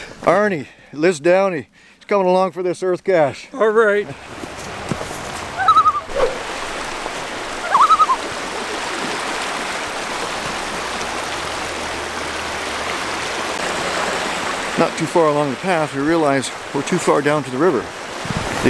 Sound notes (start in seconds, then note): 5.5 loon call